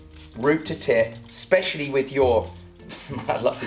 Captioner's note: laughing